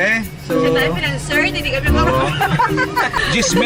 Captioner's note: laugh